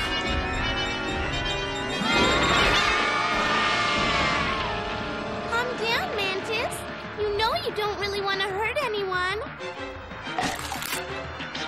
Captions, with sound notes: [ SCREAMING ] CALM DOWN, MANTIS. YOU KNOW YOU DON'T REALLY WANT TO HURT ANYONE. [ CHOMP ]